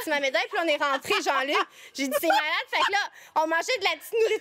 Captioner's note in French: rires